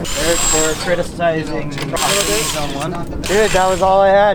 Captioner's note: impact drill rattles